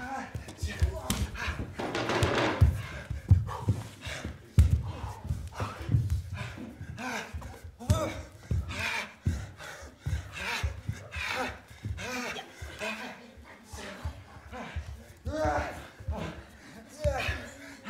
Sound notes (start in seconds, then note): 6.3 guy gasping; 15.1 guy groaning